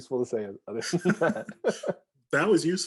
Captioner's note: chuckling